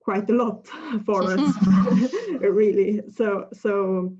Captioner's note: laughter from other speakers